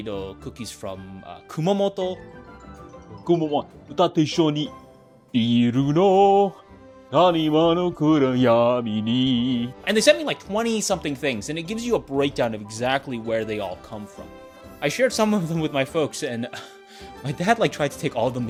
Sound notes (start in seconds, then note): 2.5 speaks in foreign language